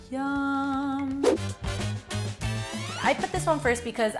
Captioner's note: air whooshing